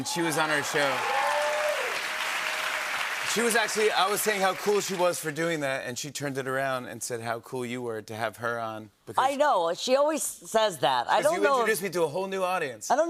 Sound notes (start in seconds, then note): 1.8 cheers and applause